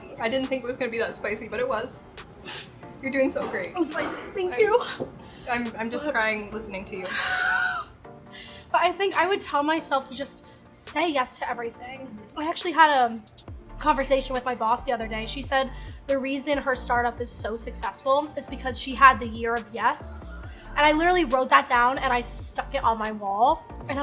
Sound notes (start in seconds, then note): 7.0 laughing